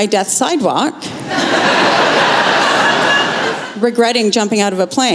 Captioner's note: laughter